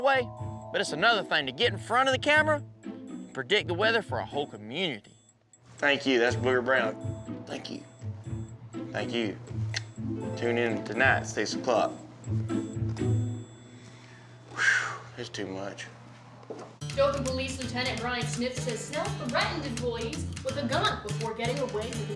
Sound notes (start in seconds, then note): 9.7 clicks tongue; 14.6 sighs